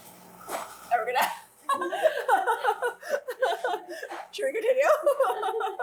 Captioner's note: laughs